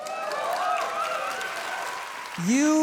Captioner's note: audience cheering